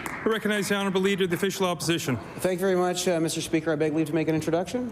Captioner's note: applause